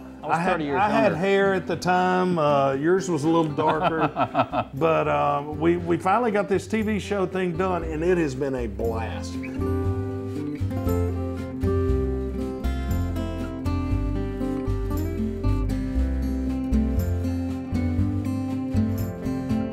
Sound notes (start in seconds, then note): 3.5 laughs; 11.5 peaceful music